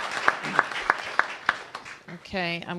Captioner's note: applause